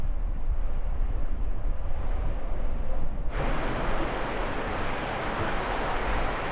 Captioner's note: wind